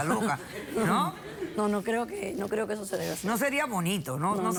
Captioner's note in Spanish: Risas